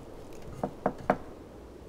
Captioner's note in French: toc toc toc